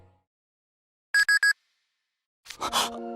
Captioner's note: beep beep